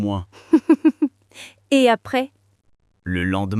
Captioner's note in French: rire